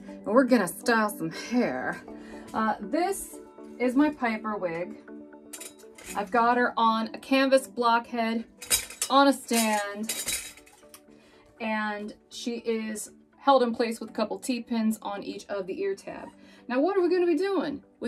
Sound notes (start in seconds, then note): 8.5 metal rattling